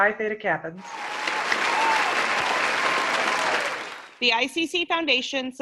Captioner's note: applause